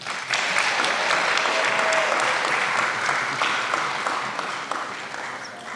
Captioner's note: applause